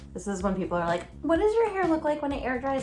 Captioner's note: girly speaking